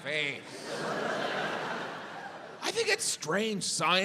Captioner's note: audience laughs